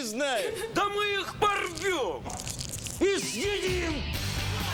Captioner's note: rustling